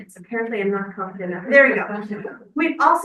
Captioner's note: member speaking faintly